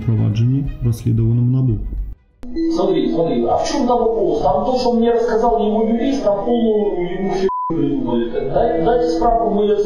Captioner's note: speaks on the phone